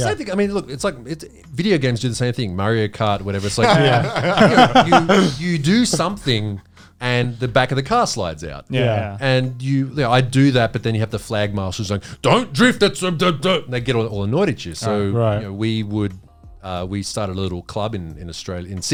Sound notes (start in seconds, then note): 3.4 all laughing